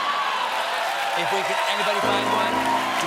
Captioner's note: cheers and applause